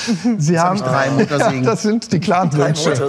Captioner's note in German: Stimmengewirr